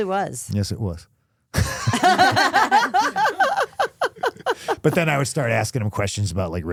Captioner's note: laughing